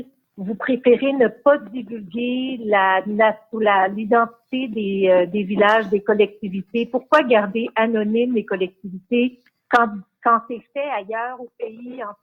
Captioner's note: speaking in French